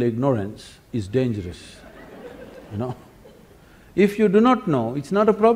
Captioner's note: laughter